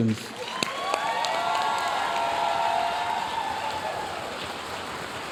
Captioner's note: audience cheering and applauding